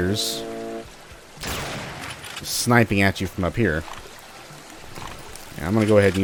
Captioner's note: bam